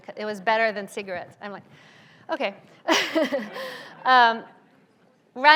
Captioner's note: laughs